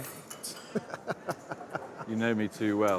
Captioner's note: laughing